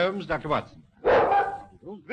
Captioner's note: dog barking